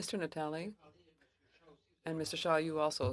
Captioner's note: speaking French